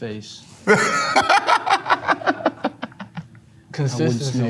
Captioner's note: laughs